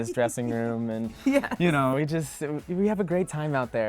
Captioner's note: laughing